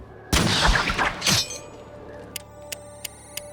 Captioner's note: clinks; warbling, beeping